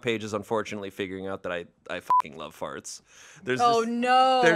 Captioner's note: beep